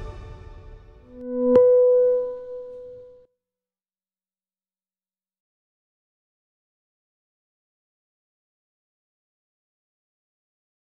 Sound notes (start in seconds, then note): 1.2 chime dings